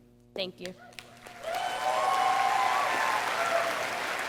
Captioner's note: audience applauding